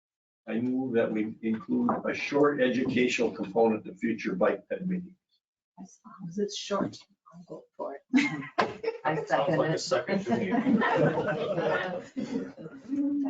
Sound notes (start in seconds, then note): 10.1 laughing; 12.1 all laughing